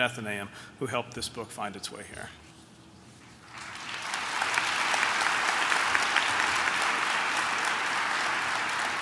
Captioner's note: applause